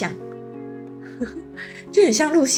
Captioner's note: laughs